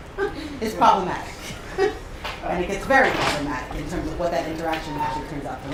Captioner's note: laugh